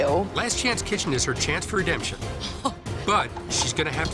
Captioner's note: laughs